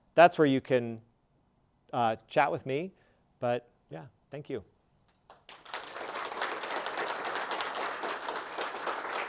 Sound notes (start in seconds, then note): 5.3 audience applauding